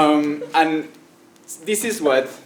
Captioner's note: laugh